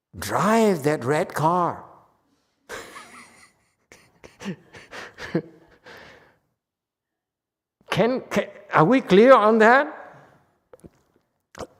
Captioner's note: laughs